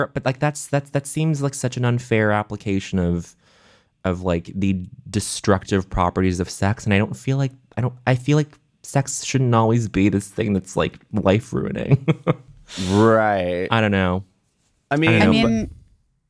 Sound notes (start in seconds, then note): 11.8 chuckling